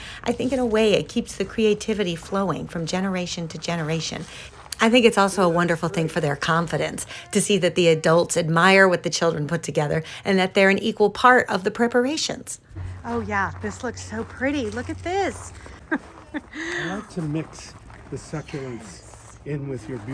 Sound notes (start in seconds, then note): 15.5 giggles